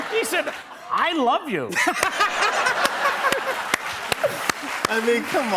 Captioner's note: laughter and applause